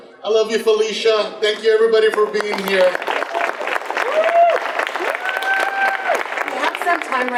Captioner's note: audience applause